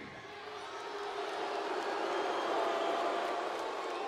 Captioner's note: audience booing